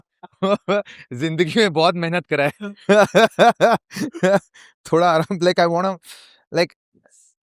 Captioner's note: laughter